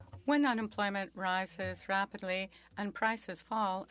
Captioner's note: speaking French